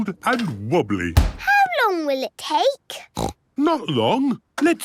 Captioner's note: snorts